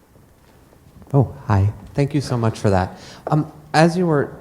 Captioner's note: voiceover